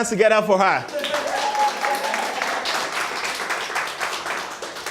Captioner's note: applause